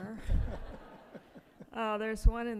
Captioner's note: all laugh